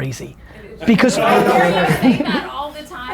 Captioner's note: group laughter